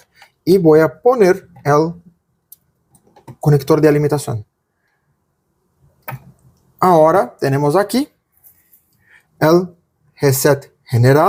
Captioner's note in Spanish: en portugués